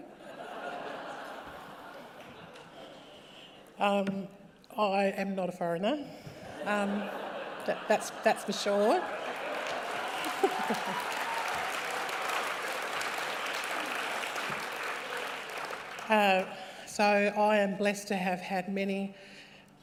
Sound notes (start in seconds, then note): 0.0 laughter; 6.5 laughter; 6.6 laughs; 8.8 cheering and applause